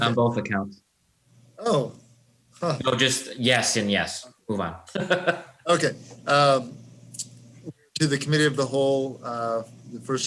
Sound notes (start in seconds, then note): 4.9 laughing